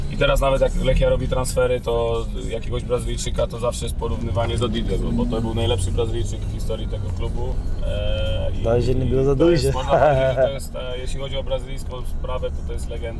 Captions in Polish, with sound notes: Dobrze, że nie było ich za dużo (śmiech).